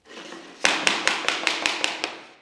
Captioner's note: knock